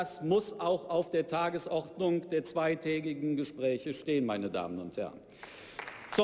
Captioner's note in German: Beifall bei der SPD